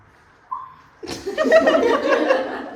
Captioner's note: excited squeak